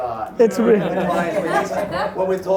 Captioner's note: laughing